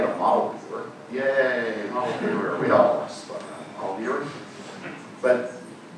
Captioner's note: audience laughing